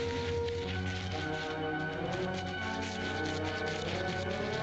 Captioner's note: rustling - paws scraping